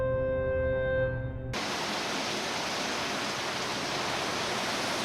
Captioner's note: rain gushing